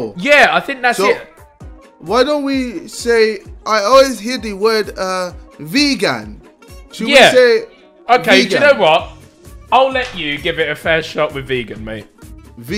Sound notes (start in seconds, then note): none